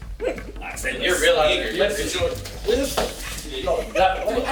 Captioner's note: laughing; group chattering